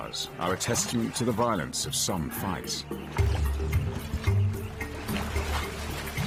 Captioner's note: upbeat music; hippos grunting